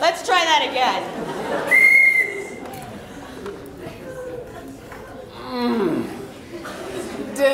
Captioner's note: whistle